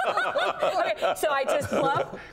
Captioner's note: laughter